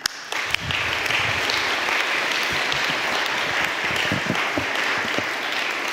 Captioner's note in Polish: oklaski